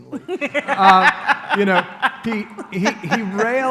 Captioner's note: laughter